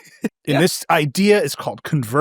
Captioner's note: laughs